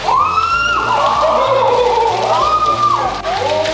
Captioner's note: screams; suspenseful music